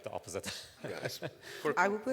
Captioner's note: laughs